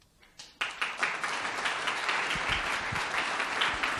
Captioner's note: audience claps